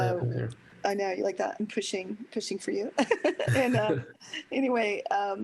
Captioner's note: laughter